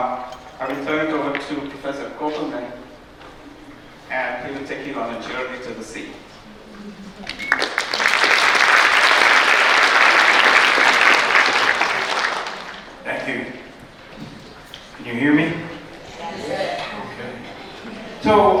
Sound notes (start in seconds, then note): 7.2 applause